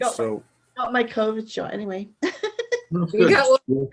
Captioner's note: laughs